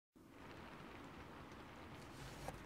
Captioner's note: rain throughout